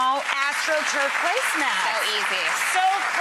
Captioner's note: applause